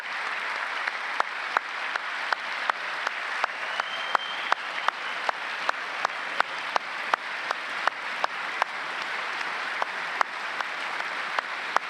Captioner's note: applause